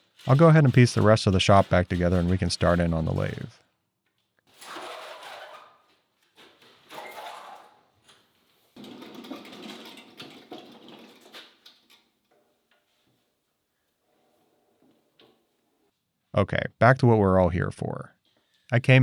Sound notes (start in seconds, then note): 5.3 cabinet scraping; 8.6 wheels rolling